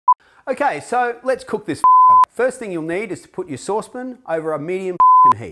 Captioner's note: beep; beep